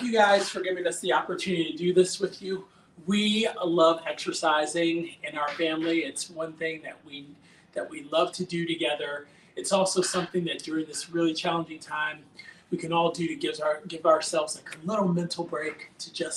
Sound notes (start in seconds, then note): 0.9 slaps hands